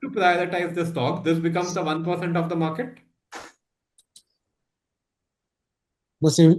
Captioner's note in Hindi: नाक से की जाने वाली आवाज़